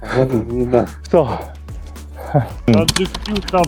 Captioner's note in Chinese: 走到喘氣